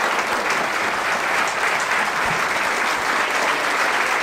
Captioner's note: applause